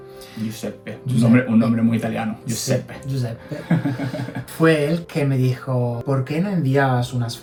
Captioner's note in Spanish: risas